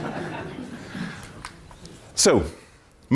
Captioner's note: laughter